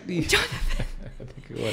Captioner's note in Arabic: تضحك